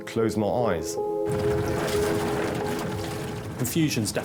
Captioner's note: lifeboat engine whirring; water splashing